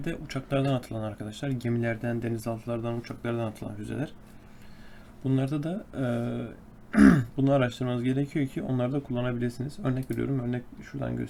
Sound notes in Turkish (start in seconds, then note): 6.9 boğazını temizler; 6.9 öksürme